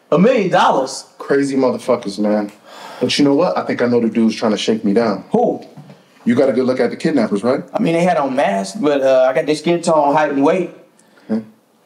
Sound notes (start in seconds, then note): none